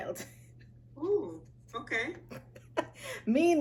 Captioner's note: laughs